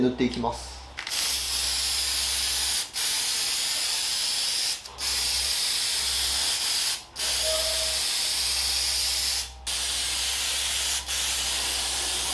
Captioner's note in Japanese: 塗装音